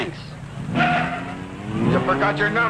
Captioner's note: tires squealing